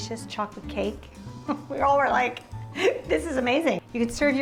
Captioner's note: laughs